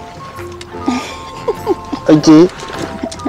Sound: laughs

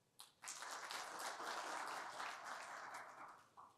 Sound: applause

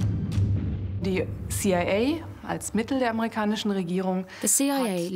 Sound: speaking German

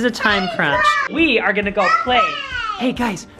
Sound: boys holler

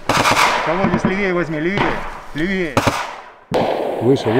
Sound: radio exchange

